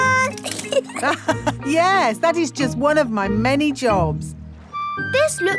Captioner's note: laughs